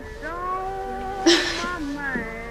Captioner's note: sobbing